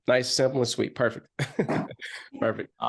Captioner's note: laughs